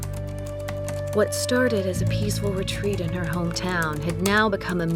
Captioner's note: typing resumes